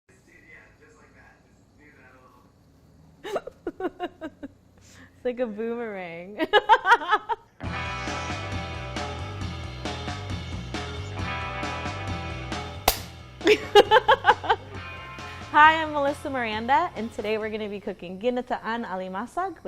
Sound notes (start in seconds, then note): 3.2 laughs; 7.0 laughs; 7.7 upbeat music; 12.9 clapperboard clicks; 13.5 laughs